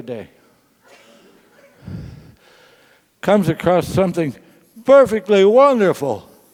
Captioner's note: laugh